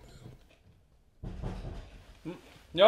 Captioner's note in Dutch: Kloppend geluid